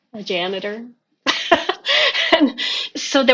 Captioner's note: laughing